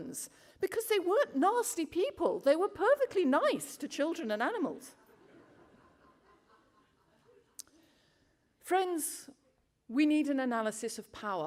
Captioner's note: laughter